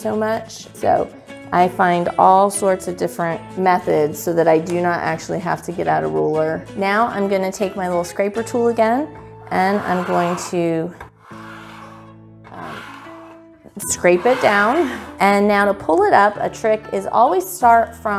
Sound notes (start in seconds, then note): 10.9 scraping sounds